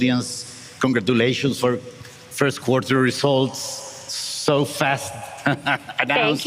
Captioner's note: laughs